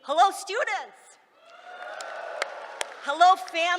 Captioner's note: cheering